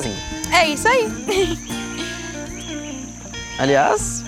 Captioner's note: birds